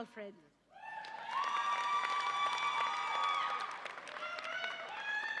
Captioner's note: audience applauds and cheers